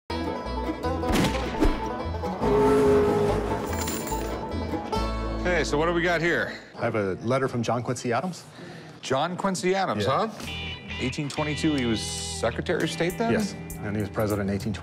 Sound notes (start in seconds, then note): 0.1 banjo music playing; 1.0 gunshot; 2.4 train horn sounding; 3.6 coins jingling